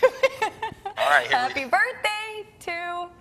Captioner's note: laughing